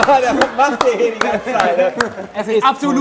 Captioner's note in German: Christian sagt lachend etwas; lacht